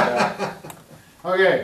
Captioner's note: laughing